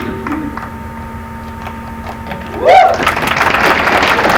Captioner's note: applause